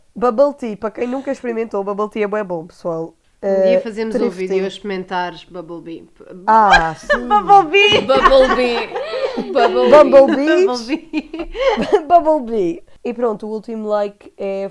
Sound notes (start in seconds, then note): 6.6 laughs; 6.7 laughs continues while we all make fun of "bubblebee"